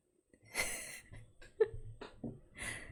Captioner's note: laughs